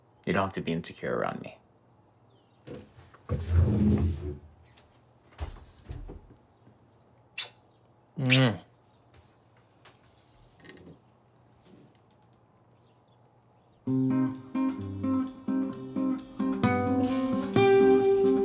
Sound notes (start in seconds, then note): 2.7 chair scrapes; 14.5 jazzy acoustic guitar music